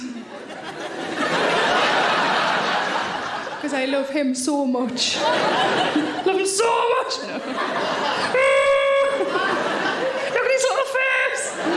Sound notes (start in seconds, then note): 0.0 audience laughing; 7.6 Sarah groaning; 7.6 audience laughing